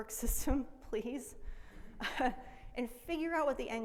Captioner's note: laughs